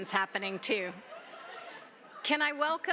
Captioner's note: laughter